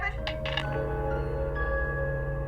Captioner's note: dial tone humming; dramatic music